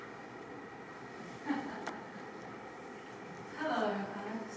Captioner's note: the Queen laughs